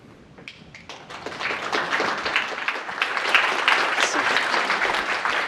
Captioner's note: audience applauding